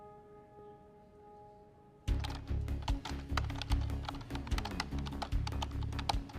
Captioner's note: keyboard clacking